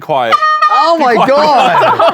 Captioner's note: honks horn